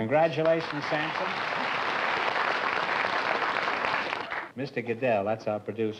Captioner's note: applause